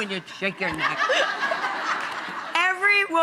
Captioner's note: audience laughing